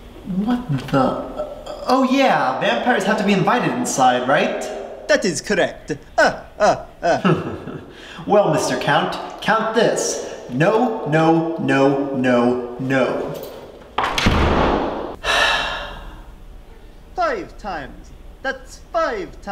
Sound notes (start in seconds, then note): 5.8 laughs; 15.1 exhales